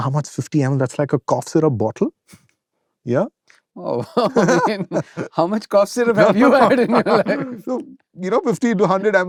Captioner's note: laughter